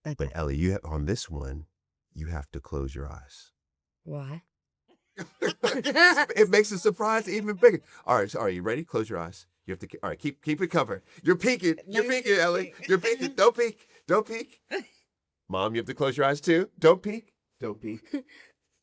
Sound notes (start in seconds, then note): 5.2 they all laugh